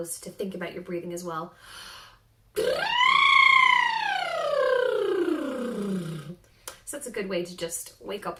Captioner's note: trilling